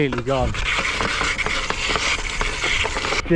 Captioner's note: unhappy bike sounds